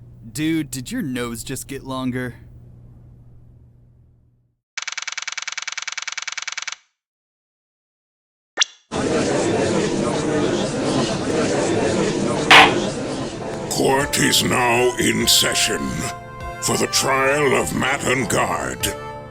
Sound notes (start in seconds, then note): 9.1 gallery chattering; 12.5 gavel slam!